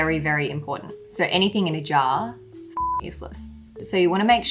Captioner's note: beep